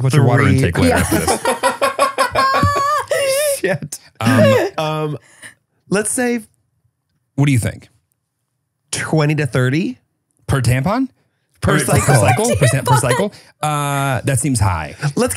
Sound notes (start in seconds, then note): 0.6 laughs; 11.8 laughs